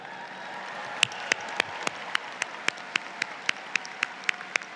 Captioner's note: audience applauds